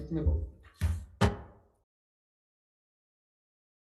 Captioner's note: gavel thuds